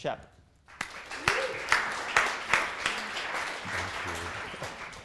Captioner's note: applause